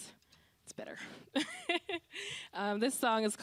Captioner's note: laughing